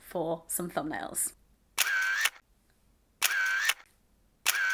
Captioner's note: camera shutter